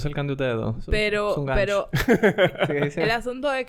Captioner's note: laughs